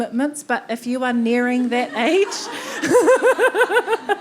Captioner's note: everyone laughing